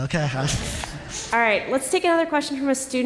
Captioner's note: laughter